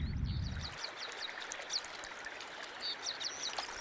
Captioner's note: water sloshes; birds singing